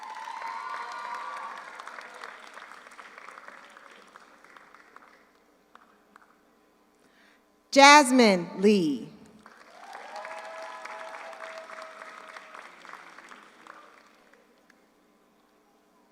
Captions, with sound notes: (audience cheers) (audience applauds) Jasmine Lee. (audience cheers) (audience applauds)